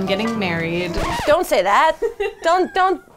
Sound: record scratches

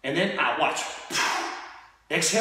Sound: exhaling

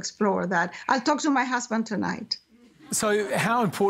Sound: laughter

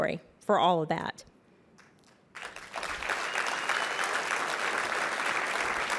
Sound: applause

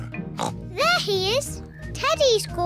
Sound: oinks

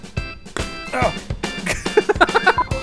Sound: cheerful instrumental music; grunts; laughs

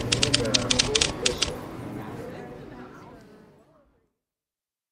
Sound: typewriter tapping

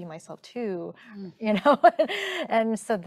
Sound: chuckling

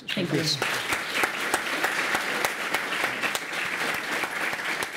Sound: applause

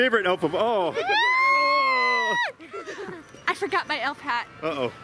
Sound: screaming

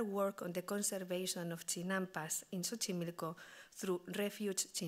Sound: speaking Spanish

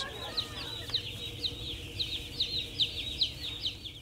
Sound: birds chirping

